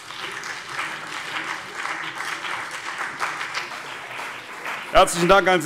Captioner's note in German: Beifall